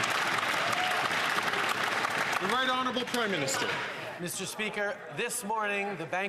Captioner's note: some Applause